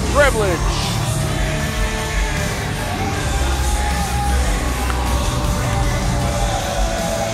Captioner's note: crowd cheering; rock and roll music